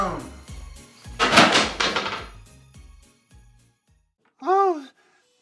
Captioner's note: broom clatters